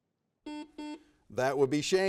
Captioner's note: buzzer beeps